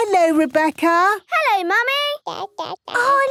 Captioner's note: babbling